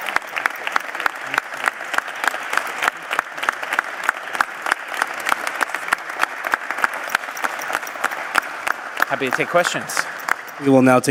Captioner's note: applause